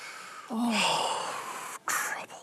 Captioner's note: sighs heavily